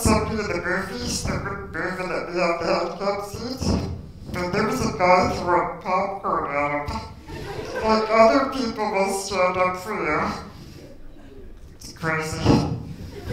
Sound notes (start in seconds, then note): 11.8 giggle